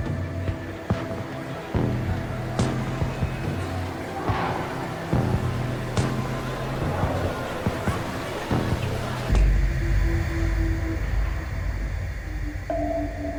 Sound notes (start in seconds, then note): 7.0 intense music continues; 7.0 people chattering